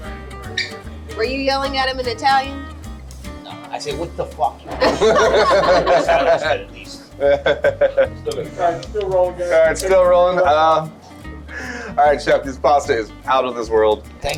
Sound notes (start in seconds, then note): 4.7 laugh